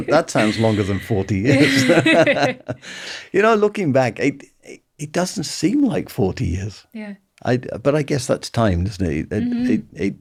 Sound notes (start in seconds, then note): 1.8 laughing